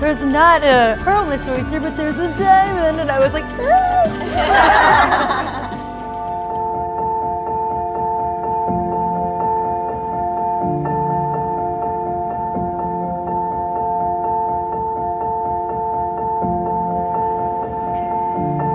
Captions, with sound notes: there's not a pearl in this oyster but there's a diamond. And I was like ooh! (laughing) (anticipatory music)